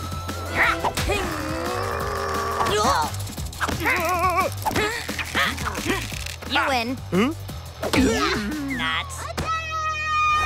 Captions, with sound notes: [straining] - You win. - Huh? - Nuts. - Attack...!